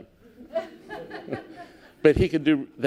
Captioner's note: laughter